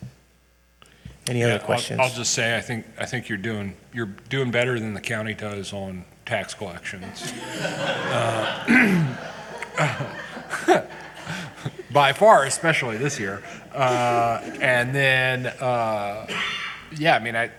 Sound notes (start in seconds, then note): 7.0 all giggling